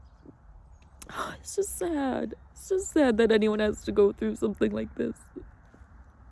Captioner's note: clicks tongue; sighs sharply